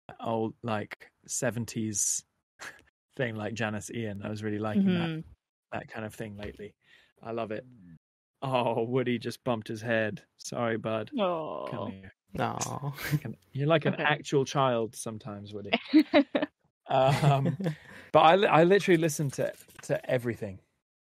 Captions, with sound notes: all. Like 70's thing, like Janis Ian. I was really liking that kind of thing lately. I love it. Oh, Woody just bumped his head. Sorry bud!. Awww You're like an actual child sometimes Woody! (laughing) But I literally listen to to everything.